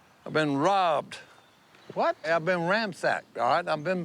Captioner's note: none